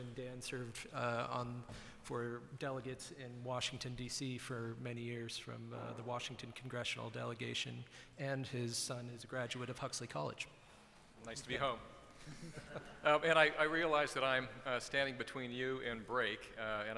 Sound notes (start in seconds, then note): 12.2 laughter